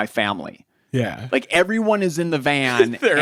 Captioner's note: chuckles